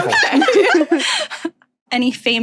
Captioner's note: guests laughing